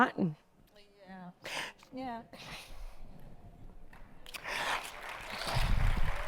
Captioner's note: audience clapping